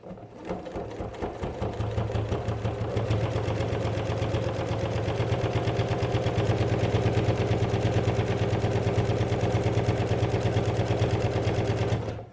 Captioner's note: sound of sewing machine